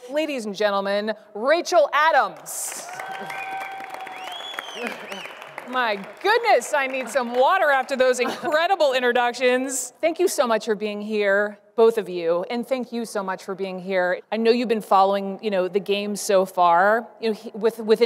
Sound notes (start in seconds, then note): 2.7 audience cheering